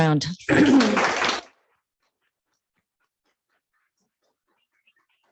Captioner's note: congregation clapping